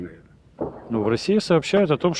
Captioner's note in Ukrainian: звук вибуху